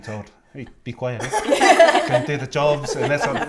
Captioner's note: laughter